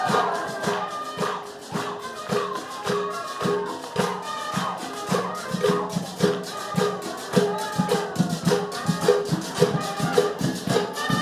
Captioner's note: applause